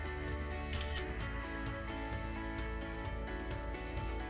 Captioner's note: camera clicks